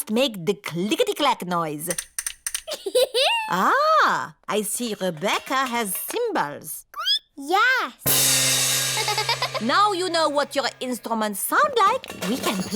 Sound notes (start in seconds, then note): 2.6 giggles; 7.3 squeaks; 8.9 giggles